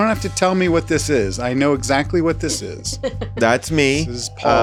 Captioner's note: laughs